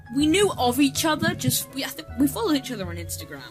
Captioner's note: stumbles on his words